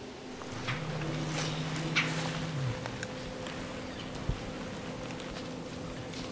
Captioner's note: footsteps heard in the leaves